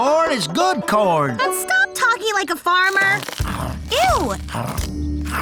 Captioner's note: gobbling